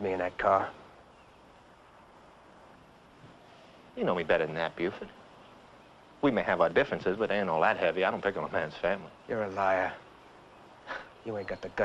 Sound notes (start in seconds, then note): none